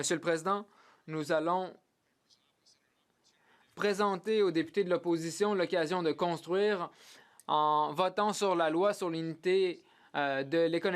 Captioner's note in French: voix de l'interprète